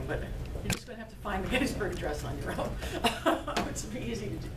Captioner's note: laughing